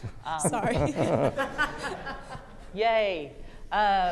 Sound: everyone laughs

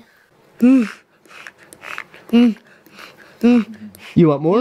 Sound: grunts

